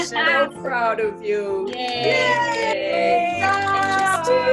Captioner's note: cheering